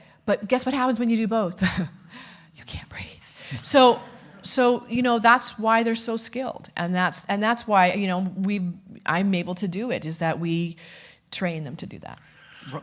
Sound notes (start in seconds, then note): 2.1 chuckles; 3.6 audience laughing